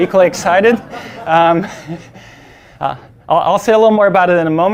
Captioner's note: laughing